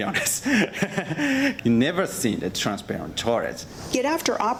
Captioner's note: chuckles